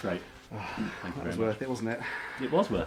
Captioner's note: sighs